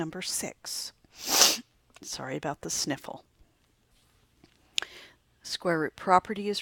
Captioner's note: sniffing